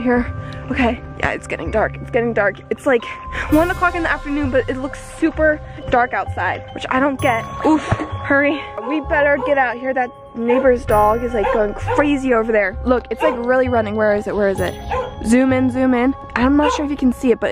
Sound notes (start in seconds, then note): 7.6 sighs